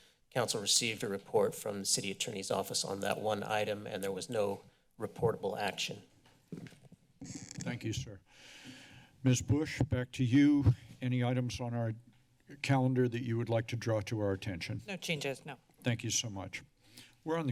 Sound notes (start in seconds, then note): 7.2 mic noise; 8.2 deep breath